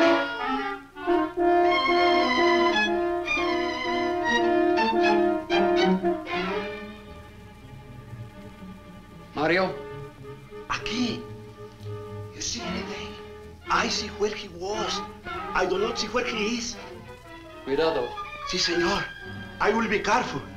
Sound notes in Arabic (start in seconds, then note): 10.5 ماريو يتحدث الاسبانية; 17.5 ثورن يتحدث الإسبانية